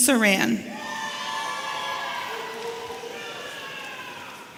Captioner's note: audience cheering